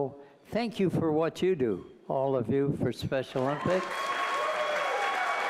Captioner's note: applause